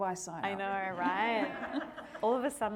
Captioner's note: audience laughing